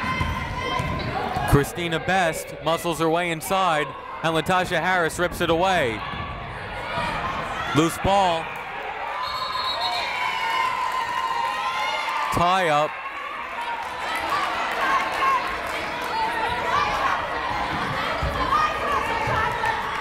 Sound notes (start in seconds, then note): 0.3 yelling; 9.2 whistle blowing; 12.0 cheering; 14.8 yelling